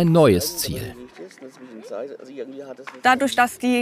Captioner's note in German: Leise Gesprächsfetzen